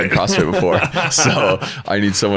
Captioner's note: laughs